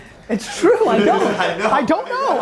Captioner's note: laughing